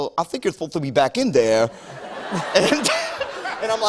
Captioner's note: laughter